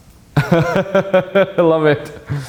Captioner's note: laughing